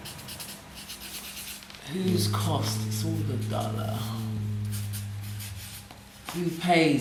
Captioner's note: humming